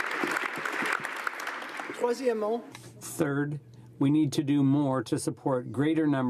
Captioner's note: applause